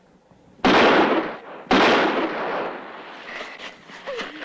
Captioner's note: gunshots